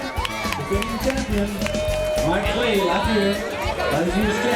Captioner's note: crowd cheering